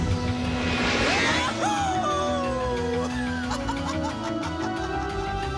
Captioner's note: laughs